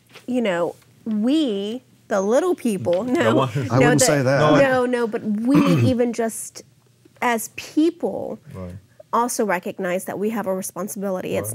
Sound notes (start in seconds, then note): 2.9 laughing